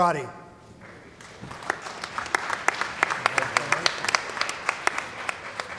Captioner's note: applause